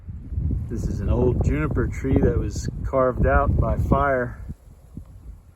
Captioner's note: wind blowing